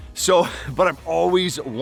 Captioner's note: laughing